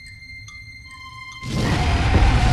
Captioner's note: roars